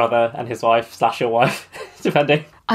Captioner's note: laughs